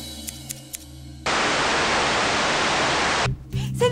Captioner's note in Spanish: Estática